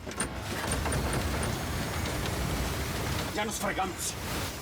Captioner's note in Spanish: ruido al patear el freno